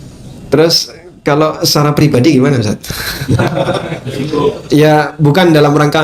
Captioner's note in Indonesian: tertawa